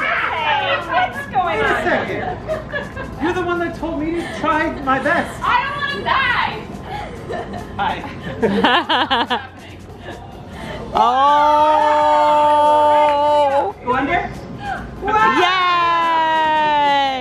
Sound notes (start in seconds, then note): 6.8 kids giggle; 8.0 laughs; 11.0 kids cheer